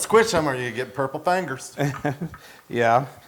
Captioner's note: laugh